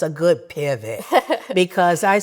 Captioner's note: laughs